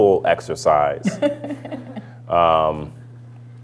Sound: laughter

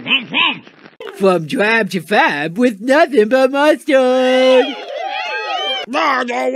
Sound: applause

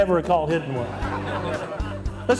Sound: laughter

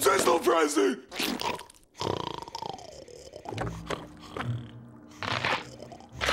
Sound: snoring; cracking

